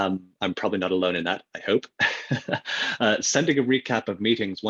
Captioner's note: laughs